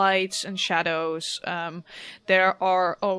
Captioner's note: people talking and evening city ambience begins in the background